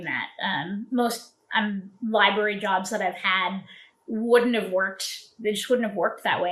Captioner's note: uhm